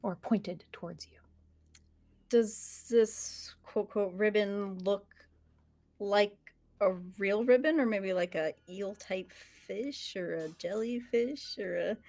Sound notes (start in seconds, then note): none